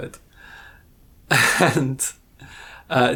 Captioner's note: laughs